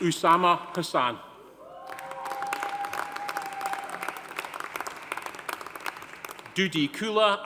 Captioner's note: audience cheering; audience applauding